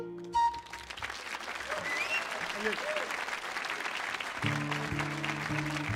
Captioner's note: audience applauding